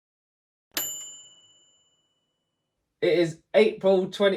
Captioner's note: bright bell dinging